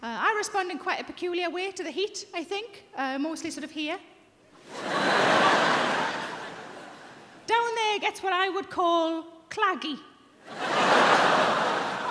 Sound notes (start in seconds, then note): 4.6 audience laughing